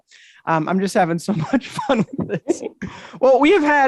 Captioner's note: chuckles